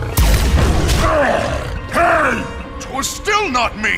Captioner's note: grunts